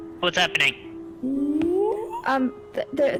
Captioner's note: wOOOOOoooh?